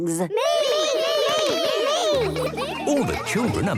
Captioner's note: all calling out